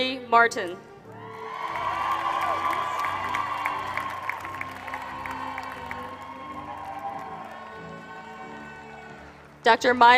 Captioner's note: applause